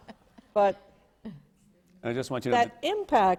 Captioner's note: laughter